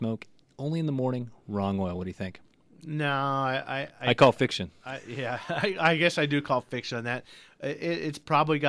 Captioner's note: laughs